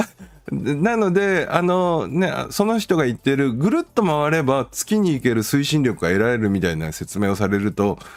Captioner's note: laughs